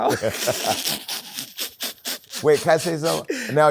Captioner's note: laughter